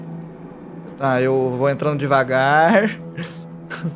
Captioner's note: laughs